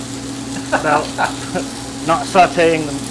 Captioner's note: laughing